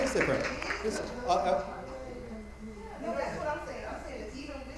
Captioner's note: attendees applauding; light chatter